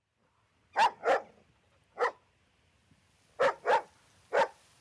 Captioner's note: dog barking